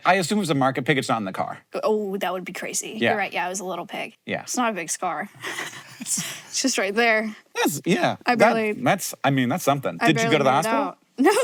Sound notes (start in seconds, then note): 5.4 chuckles